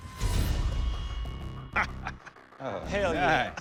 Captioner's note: laughter